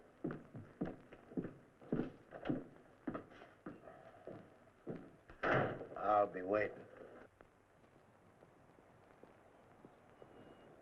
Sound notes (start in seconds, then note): none